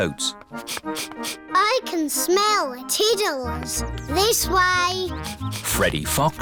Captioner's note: sniffs